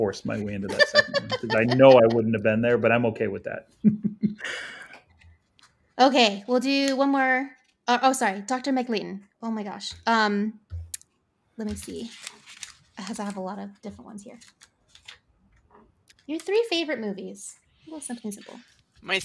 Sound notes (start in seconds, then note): 5.4 laughs